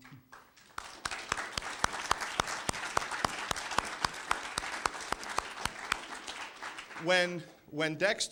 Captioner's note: applause